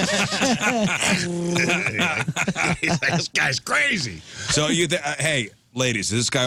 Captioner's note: laughing